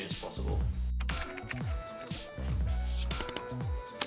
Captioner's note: clicking; gentle music